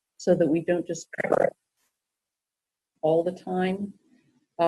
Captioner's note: blowing raspberries